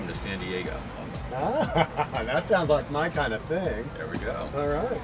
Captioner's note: laughs